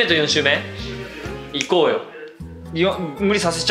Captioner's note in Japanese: 指を鳴らす